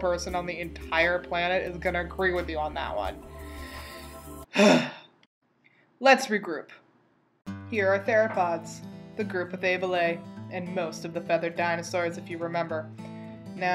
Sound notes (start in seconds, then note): 4.5 deep sigh of SCIENCE